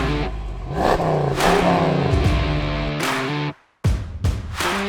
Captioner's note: engine revving